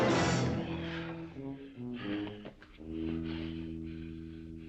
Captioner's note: both panting